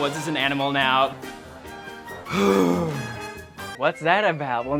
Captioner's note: deep exhale of exhaustion